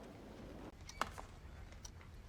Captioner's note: click